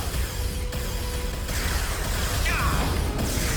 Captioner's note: explosion